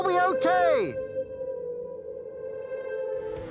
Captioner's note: shouts